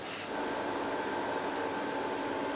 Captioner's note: machine drone